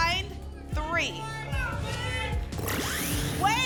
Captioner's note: cheering